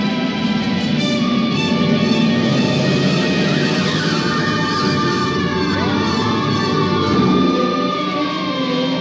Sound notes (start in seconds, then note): 3.7 police siren wails; 3.7 tires screech; 6.1 sirens wails